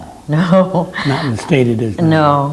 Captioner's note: laughs